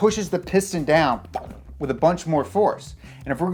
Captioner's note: blowout sound